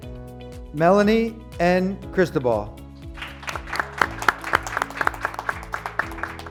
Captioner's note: graduates clapping